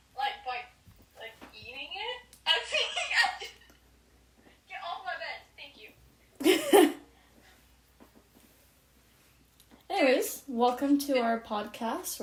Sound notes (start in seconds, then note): 2.4 laughs; 6.4 laughs